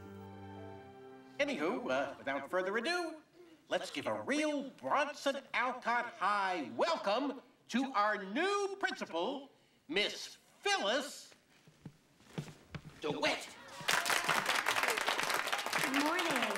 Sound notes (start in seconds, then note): 13.7 ap plause